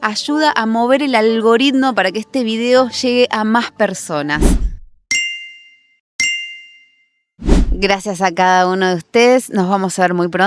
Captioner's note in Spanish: campana